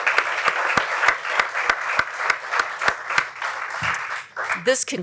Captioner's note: applause